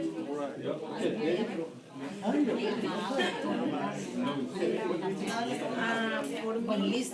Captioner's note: class talking and mumbling